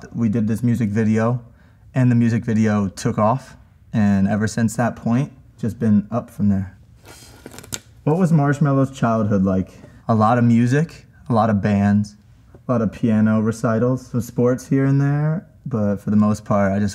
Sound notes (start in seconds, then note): 7.0 sticker rips